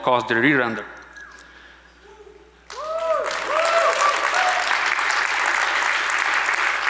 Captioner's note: audience applauds